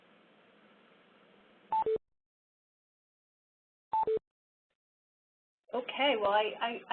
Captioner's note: beeping